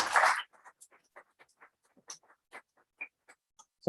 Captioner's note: applause